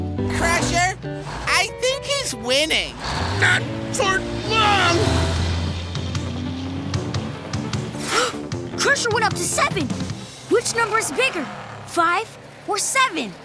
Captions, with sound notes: Crusher, I think he's winning. Not for long! [gasping] Crusher went up to seven! Which number's bigger, five or seven?